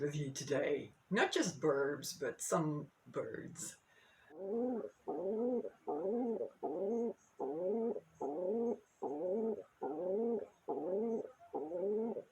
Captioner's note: cooing